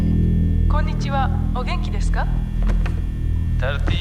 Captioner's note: recorded voice speaking Japanese